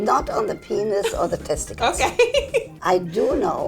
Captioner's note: laughing